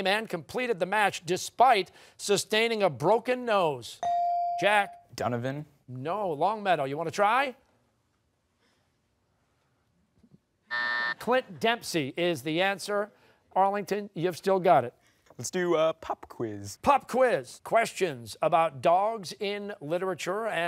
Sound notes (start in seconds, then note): 10.7 buzzer